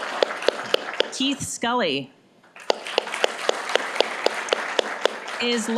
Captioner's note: applause; applause